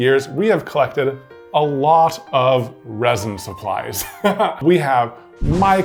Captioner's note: laughing